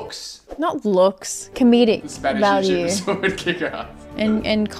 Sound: laughs

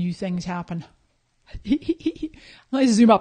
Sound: laughing

